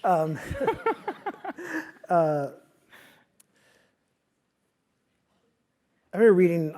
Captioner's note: laugh